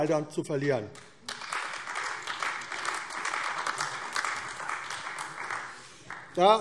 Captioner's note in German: Beifall AfD